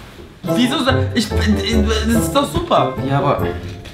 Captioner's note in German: gestotter